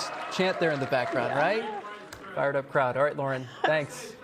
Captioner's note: laughter